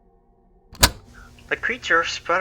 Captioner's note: cassette tape plays